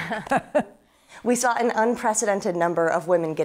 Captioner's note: chuckles